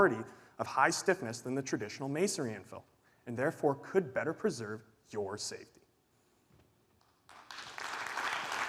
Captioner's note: applause